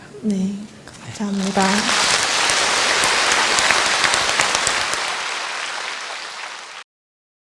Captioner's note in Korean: 청중 박수